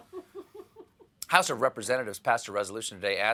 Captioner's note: laughter